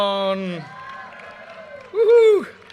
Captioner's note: audience cheers and applause